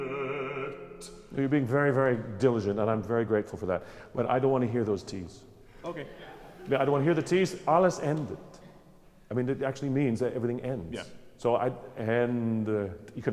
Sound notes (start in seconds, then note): 6.4 laughing; 7.8 speaks German; 12.3 speaks GERMAN